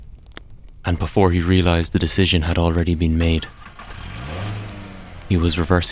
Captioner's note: sound of car starting and pulling out of driveway